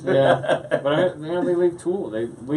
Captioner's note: laughs